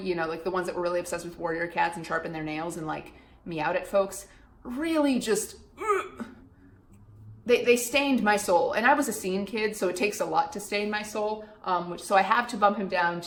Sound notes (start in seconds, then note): 5.7 gags